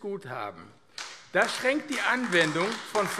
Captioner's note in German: Beifall AfD